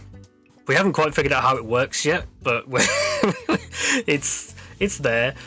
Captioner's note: laughs